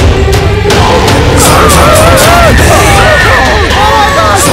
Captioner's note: Screams